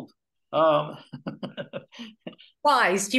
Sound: laughs

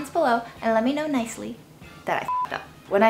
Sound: beep

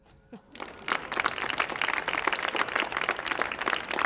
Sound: audience claps

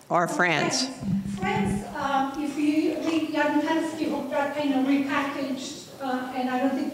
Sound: student mumbling

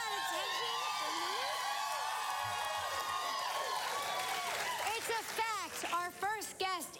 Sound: cheering and applause

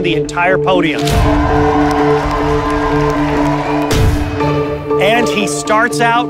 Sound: crowd cheering

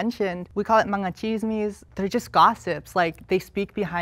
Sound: speaks foreign language

